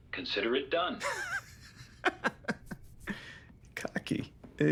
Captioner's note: Kent laughing